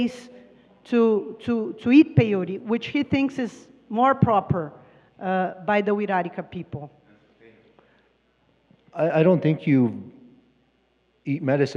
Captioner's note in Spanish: Expositor habla en inglés